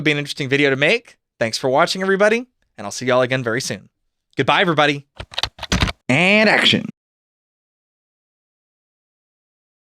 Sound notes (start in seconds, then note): 5.2 typing